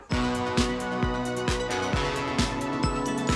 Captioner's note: crowd cheering